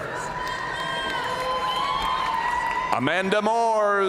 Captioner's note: audience cheering and applauding